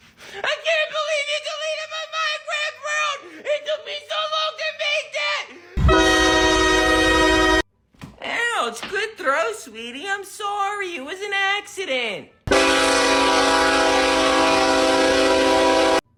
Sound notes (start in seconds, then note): 5.8 ac44cw csx yn2 horn sounds; 12.4 BNSF SD70ACe HORN SOUNDS